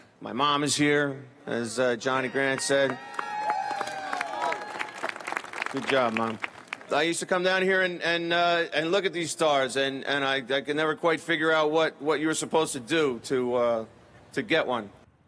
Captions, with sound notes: my mom is here as Johnny Grant said. (audience clapping) Good job, mom. I used to come down here and look at these stars and I could never quite figure out what you were supposed to do to get one.